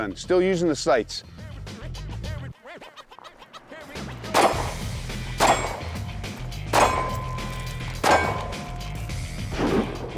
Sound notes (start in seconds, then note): 4.3 gunshots